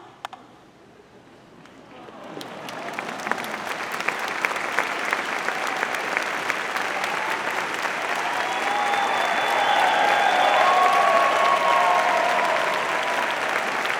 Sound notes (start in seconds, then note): 3.8 audience applauding; 10.0 audience cheering